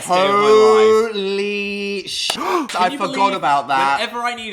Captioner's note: gasp